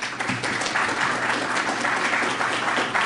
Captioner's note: applause